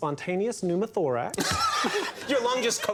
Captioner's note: all laughing